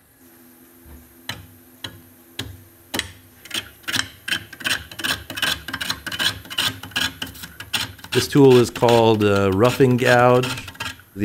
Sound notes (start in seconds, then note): 0.3 machine whirring; 1.4 wood scrapping